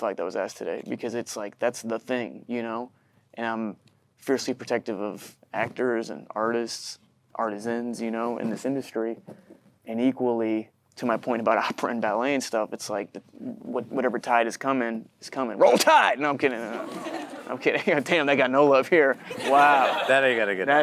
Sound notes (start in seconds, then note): 16.6 audience chuckling; 19.2 chuckles